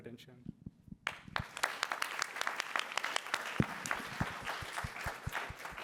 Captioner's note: applause